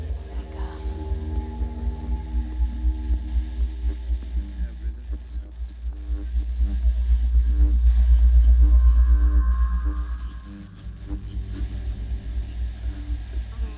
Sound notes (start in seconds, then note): 6.2 deep electronic hum pulsating; 10.3 static crackling